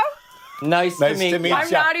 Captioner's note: laughter